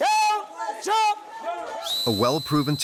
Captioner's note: whistle blows